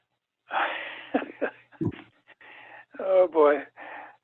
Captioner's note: chuckles